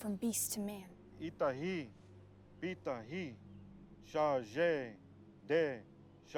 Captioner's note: speaking in foreign language